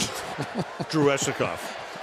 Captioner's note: laughter